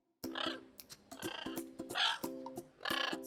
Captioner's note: bird cawing